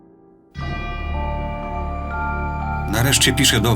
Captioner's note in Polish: dźwięk bijącego dzwonu